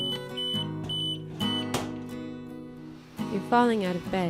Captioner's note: beeping stops; alarm beeping